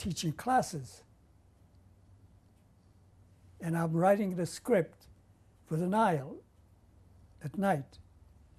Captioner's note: pauses for 3 seconds